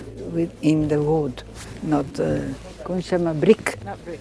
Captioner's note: speaking in foreign language